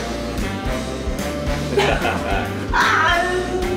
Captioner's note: chuckles